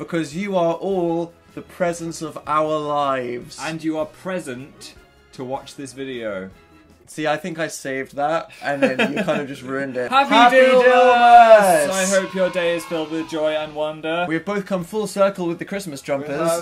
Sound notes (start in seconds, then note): 8.6 laughs; 12.6 robotic voice